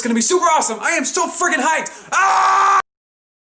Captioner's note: scream!